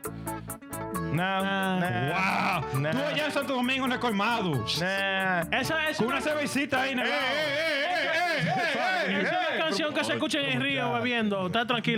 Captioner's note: speaking Spanish